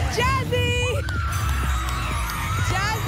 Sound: cheering

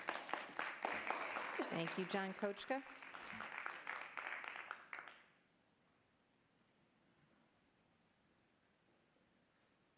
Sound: applause

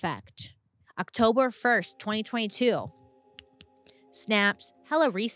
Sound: snaps fingers

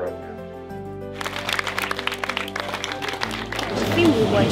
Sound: applause

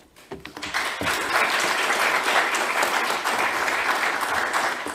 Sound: crowds applause

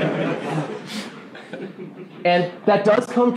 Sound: laughing

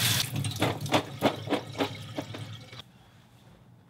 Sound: walnuts thudding

